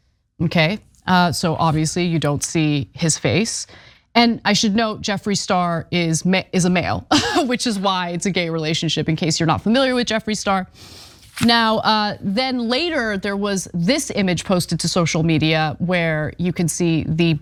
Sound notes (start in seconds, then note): 5.9 laugh